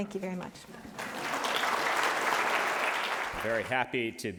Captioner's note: applause